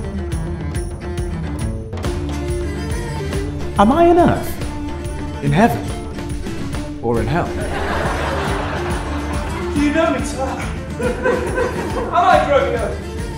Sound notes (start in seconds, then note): 7.4 audience laughter